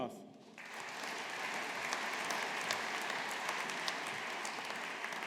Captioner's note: audience applauding